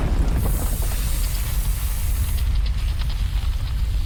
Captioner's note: rumble, rumble, rumble